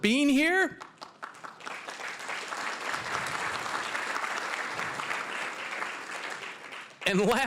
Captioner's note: applause